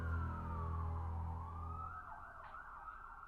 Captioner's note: siren